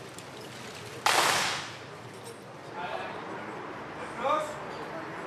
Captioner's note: rifles clacking; commander shouting